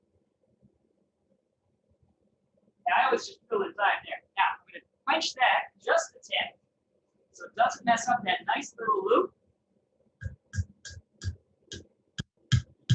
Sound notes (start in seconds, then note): 9.0 hammering